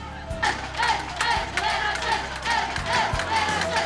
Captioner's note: chanting